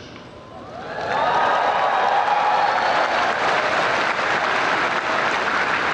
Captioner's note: crowd cheers and applauds